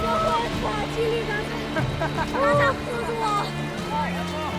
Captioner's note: laughing, speaking Chinese dialect